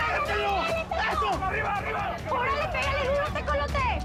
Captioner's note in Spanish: Gritan al unísono